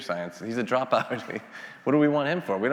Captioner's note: laughs